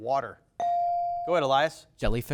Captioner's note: bell dings